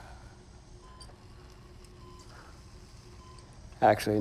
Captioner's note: respirator hissing